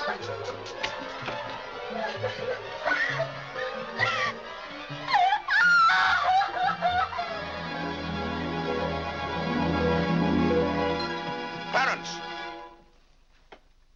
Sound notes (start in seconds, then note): 0.1 Mary crying; 0.1 dramatic music; 5.1 Mary shrieks; 6.7 dramatic music